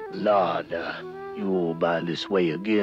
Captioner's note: yawns